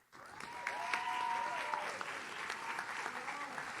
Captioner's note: audience cheers